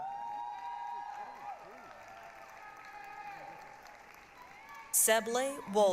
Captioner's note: applause, cheering